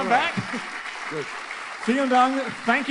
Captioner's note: in German; applause; in German